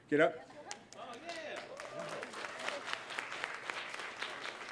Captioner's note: applause